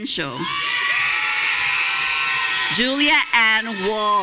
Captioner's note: audience cheering